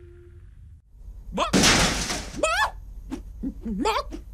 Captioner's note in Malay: hempasan besi